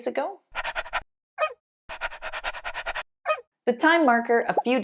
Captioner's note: dog panting and barking